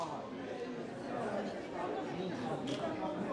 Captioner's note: crowd